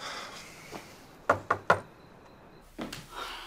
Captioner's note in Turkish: Nefes sesi; Kapı çalma sesi